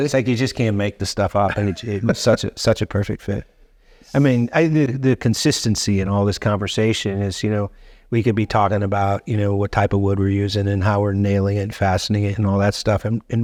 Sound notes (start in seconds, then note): 1.3 chuckling